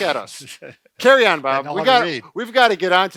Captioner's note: laughs